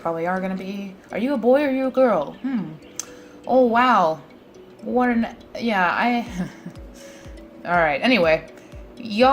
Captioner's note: laughs